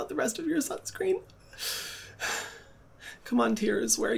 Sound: sighs

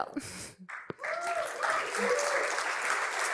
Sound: cheering and applause

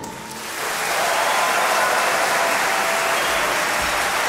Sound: audience applauding

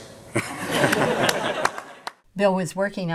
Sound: laughs

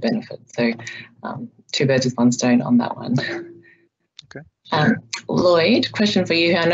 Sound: laughs

